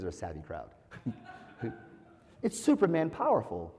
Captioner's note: laugh